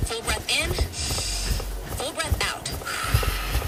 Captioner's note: inhales; exhales